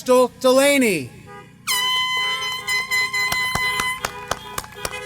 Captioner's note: applause